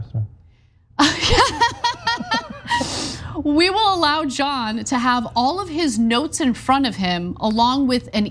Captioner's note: laugh